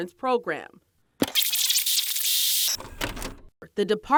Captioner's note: tape clicking; tape rewinding